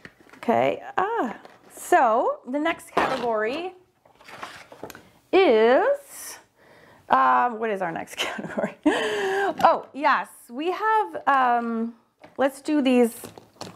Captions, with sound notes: Okay, ah! So the next category (paper ripping) is... Uh, what is our next category? (laughs) Oh, yes, we have... Let's do these.